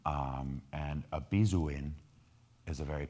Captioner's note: speaking in foreign language